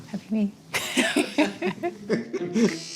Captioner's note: laughter